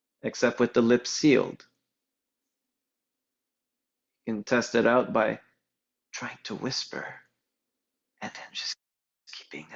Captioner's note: whispering